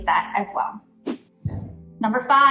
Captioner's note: air whooshes